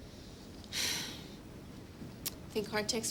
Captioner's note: Abby sighs